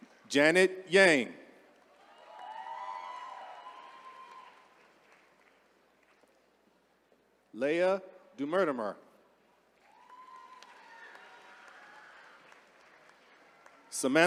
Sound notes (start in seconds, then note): 1.9 attendees cheering; 9.8 attendees cheering